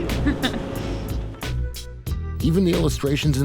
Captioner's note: chuckles